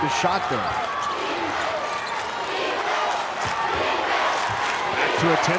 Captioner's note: crowd